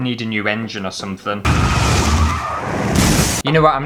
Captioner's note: crash!